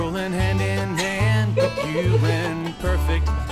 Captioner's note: laughing